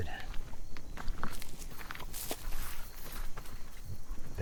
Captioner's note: footsteps crunching; leaves rustling